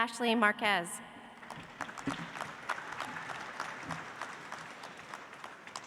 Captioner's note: audience applauds